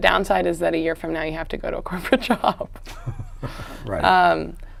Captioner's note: both laugh